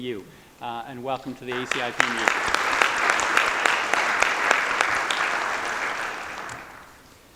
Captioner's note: applause